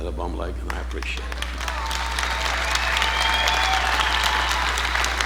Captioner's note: audience applauding